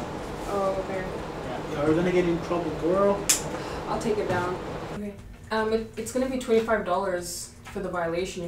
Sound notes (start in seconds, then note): 3.0 sighs